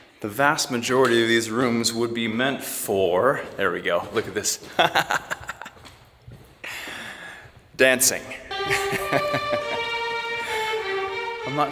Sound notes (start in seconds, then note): 4.7 laughing; 8.4 gentle classical music